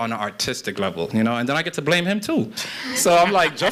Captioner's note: laughter